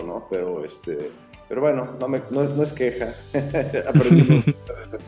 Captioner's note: laughs